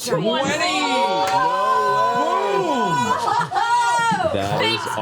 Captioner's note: cheering